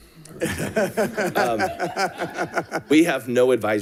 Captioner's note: audience laughing